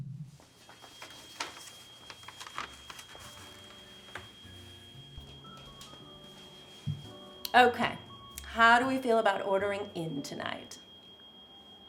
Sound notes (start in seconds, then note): 0.8 alarm beeping